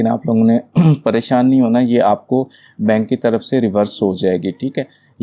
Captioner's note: clears throat